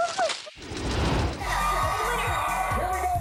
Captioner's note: flowers thrashing; logo swooshing; TV participants yelling